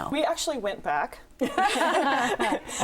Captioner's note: laughter